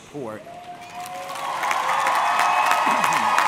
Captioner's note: audience cheering; audience clapping